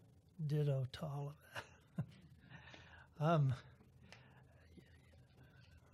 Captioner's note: chuckle